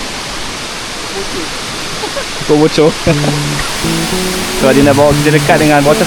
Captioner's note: laugh